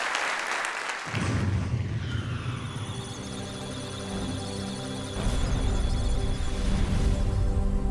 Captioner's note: electronic sounds of data